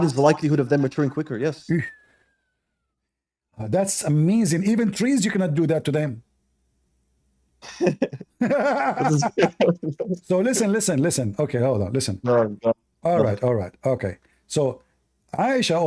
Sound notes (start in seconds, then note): 7.6 Ketawa